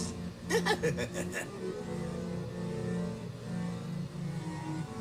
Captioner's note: spooky voice speaking; laughing spookily